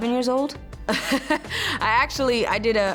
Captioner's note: laughs